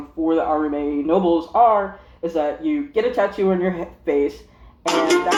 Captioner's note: phone rings